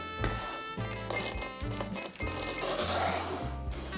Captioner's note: peanuts dropping